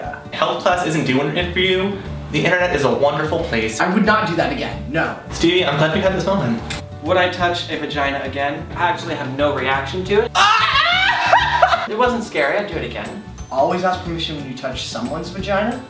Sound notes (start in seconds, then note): 10.3 screams